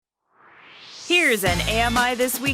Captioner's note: swoosh